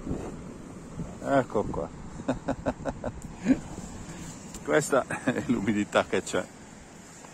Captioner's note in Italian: Risate